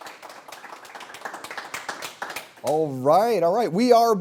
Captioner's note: applause